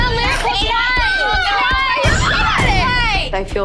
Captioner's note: arguing